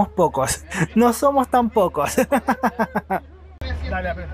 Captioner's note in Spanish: risas